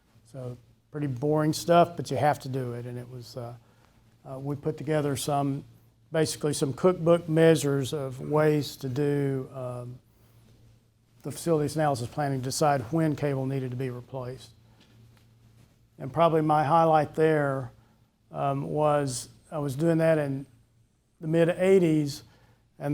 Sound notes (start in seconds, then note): none